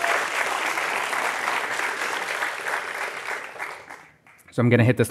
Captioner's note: applause